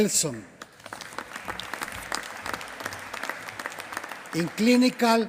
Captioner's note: applause